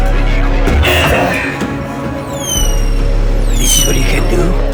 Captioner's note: intense music; fireworks squealing